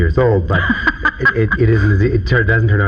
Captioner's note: laughing